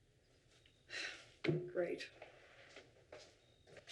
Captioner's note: sighs